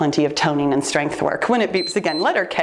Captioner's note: timer beeps